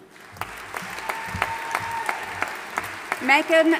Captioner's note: audience applauding and cheering